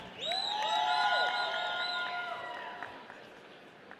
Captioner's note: audience cheering